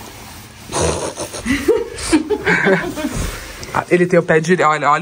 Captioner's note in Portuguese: risos